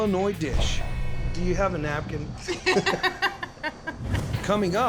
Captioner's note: laughter